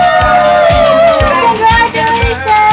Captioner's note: cheering